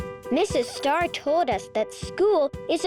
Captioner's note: upbeat music; Mrs. Star chattering